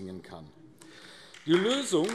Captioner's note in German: Beifall AfD